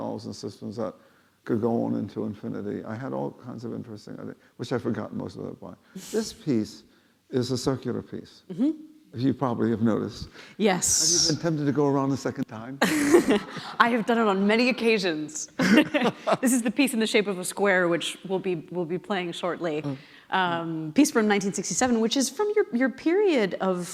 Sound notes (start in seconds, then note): 12.8 laughing